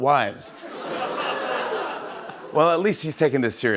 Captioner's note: laughter